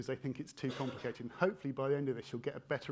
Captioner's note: attendee coughing